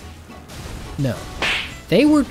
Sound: slap!

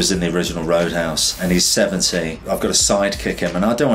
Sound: air whooshes

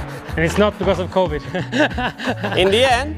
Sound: laughs

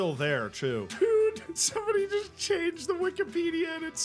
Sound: laughing

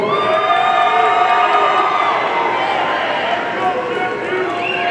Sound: audience cheering

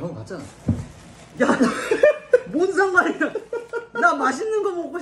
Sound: laughing loudly

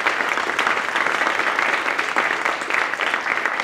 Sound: applause

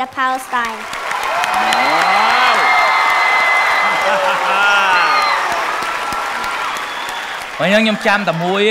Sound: cheer and applause

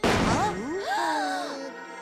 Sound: gasps

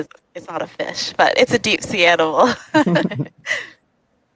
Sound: laughs

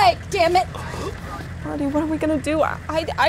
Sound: gasping

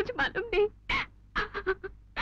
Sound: sobbing

